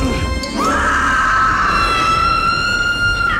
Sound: screaming

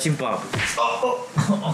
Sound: crashing

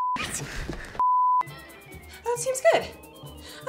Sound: beep; beep tone

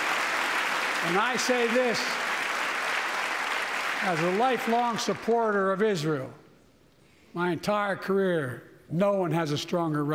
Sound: applause

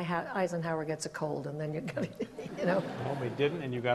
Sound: laughs

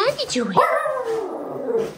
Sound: dog barking

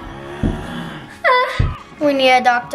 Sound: moaning

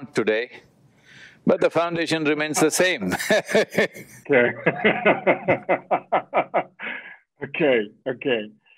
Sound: both laugh

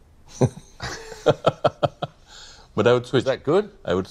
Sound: both chuckling

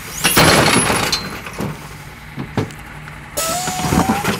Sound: loud banging; beep

